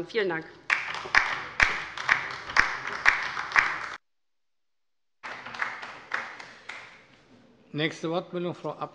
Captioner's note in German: Beifall bei der LINKEN